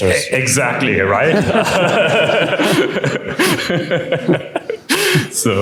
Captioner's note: laughter